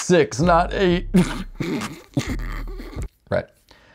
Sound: snickering

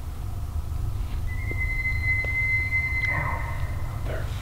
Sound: elk bugling

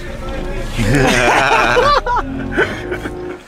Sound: laughs

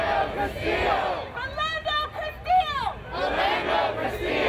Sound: crowd

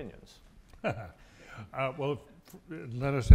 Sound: laughs

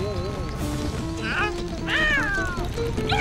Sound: meowing

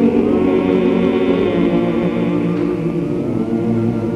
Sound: humming

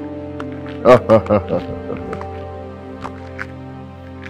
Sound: laughing

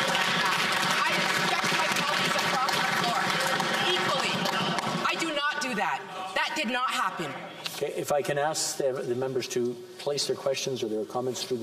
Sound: some Applause

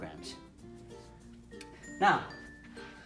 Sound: lip Smack

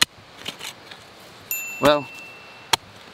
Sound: ding

